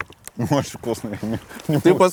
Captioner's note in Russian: Смеясь